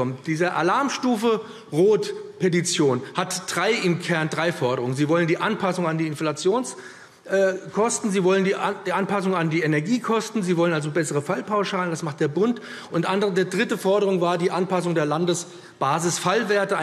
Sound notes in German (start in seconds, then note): none